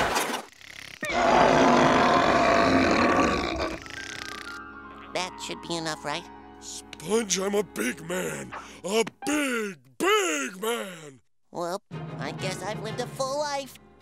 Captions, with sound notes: [roaring] That should be enough, right? Sponge, I'm a big man! A big, big man! Well, I guess I've lived a full life!